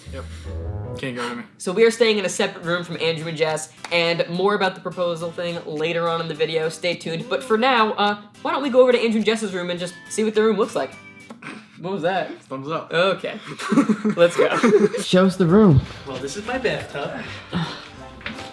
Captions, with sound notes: Yup, can't get rid of me. So we're staying in a separate room from Andrew and Jess. And more about the proposal thing later on in the video stay tuned. But for now, why don't we go over to Andres and Jess's room and just see what their room looks like. What was that? Thumbs up. OK, [LAUGHS] let's go. Show us the room. Well, this is my bathtub.